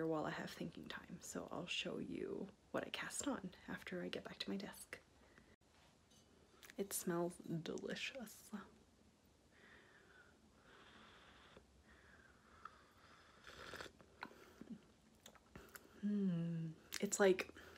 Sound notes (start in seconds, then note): 13.4 sipping noise